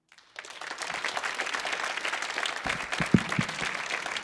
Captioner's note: audience applauding